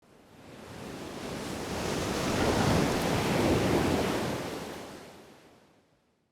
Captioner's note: waves crashing